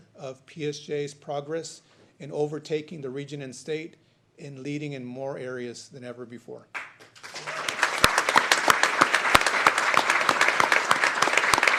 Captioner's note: applause